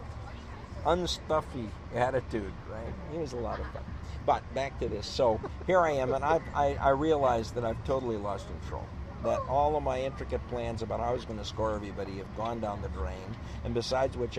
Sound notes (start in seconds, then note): 10.7 laughs